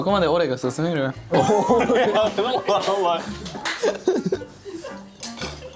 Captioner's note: another laughing fit begins